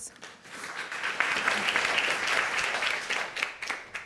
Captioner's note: audience applauding